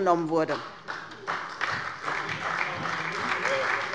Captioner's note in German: Beifall bei der SPD